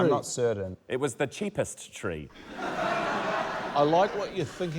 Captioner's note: laughter